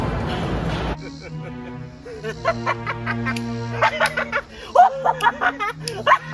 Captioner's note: Black Jack laughs; Gadgetson laughs